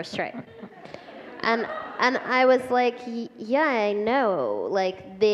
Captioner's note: laughter